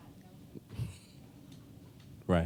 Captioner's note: mild laughter